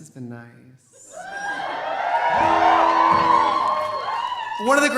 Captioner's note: audience cheering